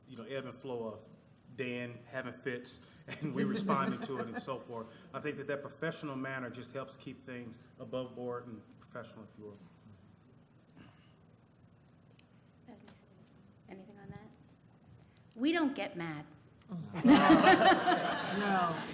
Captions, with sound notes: ebb and flow of Dan having fits and we responded to him and so forth. I think that their professional manner just helps keep things above board and professional if you will. >> Anything on that? >> We don't get mad [laughter].